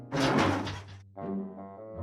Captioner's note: heater squeaks